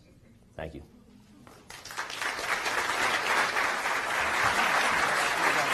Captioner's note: applause